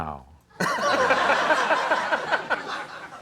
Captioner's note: audience laughter